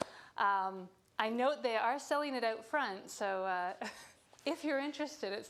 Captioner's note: chuckling